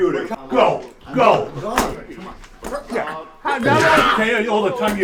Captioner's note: sound of stapler attack